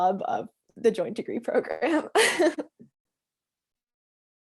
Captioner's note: laughs